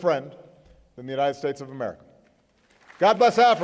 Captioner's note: applause